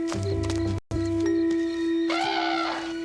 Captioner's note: bird screeching